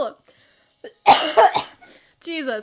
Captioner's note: aggressive cough